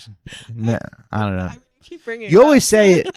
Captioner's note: laughing